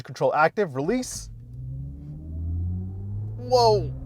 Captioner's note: car humming smoothly